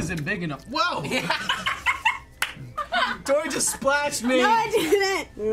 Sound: laughing

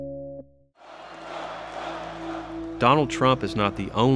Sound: crowd

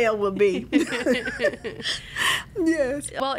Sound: laughing

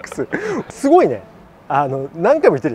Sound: laughs

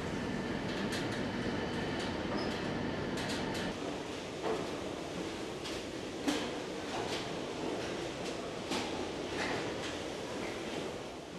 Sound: machine noises

